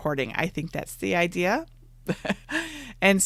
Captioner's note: laughs